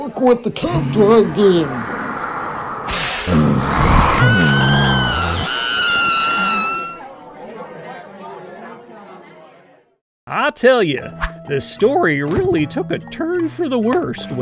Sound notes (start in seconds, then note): 2.9 whip cracks; 3.2 person screams; 8.2 crowd chatters